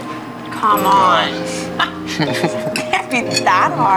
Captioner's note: laughs